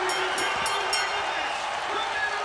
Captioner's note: bell ringing